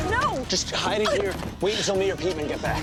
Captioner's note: Kaycee groans